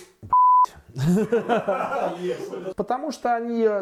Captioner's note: laughter behind the scenes